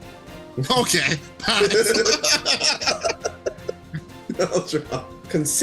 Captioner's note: laughs